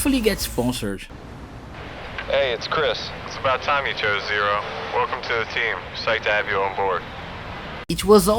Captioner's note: Chris Cole speaking on a very bored monotone voice